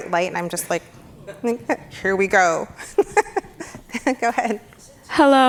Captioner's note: laughs happily